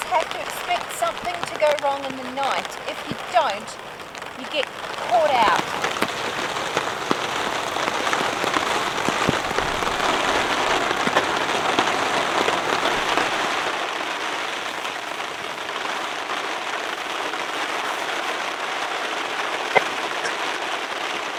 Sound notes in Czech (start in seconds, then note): 10.0 zvuky silného deště; 12.3 Déšť